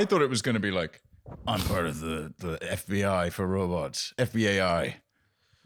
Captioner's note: deep voice